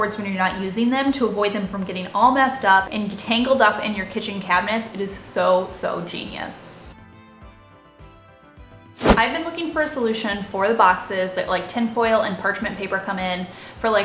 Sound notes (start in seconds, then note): 7.2 upbeat music; 9.0 air whooshing